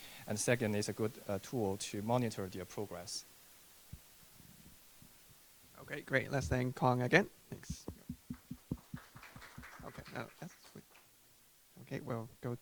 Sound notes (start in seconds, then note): 7.7 audience clapping